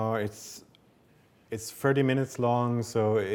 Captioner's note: none